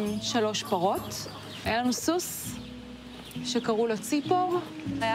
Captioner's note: bird